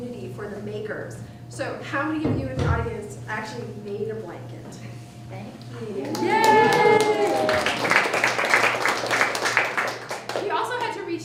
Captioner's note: clapping